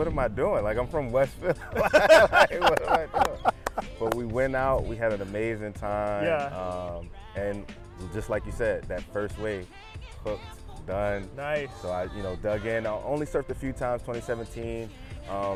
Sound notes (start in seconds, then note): 4.0 both laugh